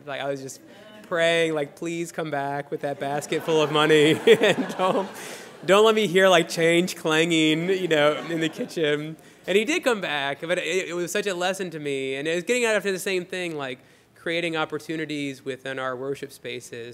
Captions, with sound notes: I was just praying, like "Please come back with that basket full of money." [laughter] Don't let me hear, like, change clanging in the kitchen. And he did come back. But it was such a lesson to me. And it is getting after the same thing, like creating opportunities within our worship spaces